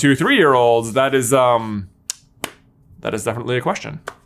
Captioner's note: claps